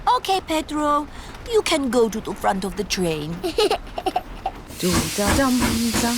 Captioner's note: giggles